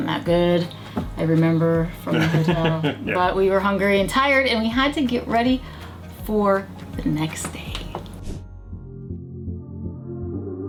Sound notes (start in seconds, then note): 2.1 laughs; 8.1 light music